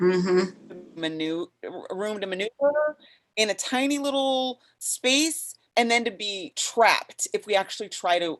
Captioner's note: audio skips